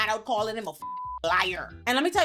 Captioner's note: beep